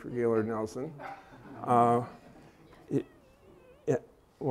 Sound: laughter

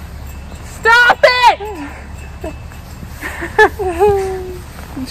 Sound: laughing

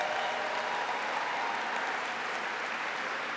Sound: applause

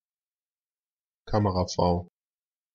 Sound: fast Pronunciation

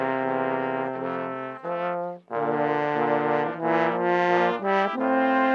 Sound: none

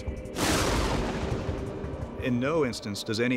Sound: lightning crashing

